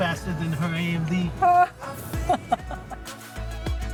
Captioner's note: laughs